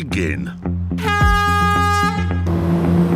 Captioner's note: horn blast